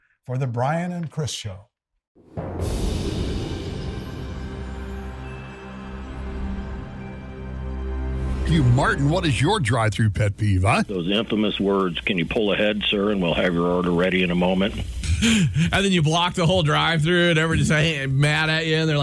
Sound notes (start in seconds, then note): 2.4 soft music; 2.4 wind whooshing